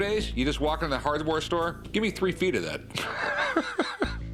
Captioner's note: laughs